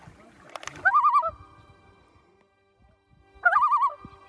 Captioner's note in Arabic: زقزقة الطيور